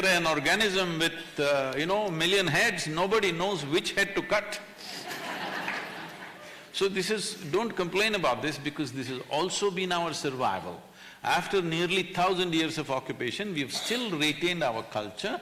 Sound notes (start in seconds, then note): 4.9 laughter